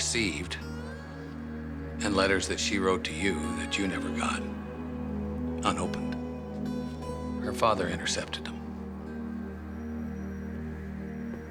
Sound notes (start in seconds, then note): none